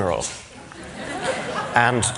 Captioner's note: laughter